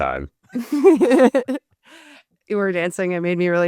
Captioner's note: laughs